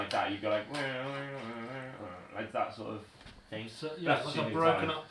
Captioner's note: humming